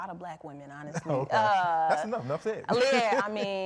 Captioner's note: laughs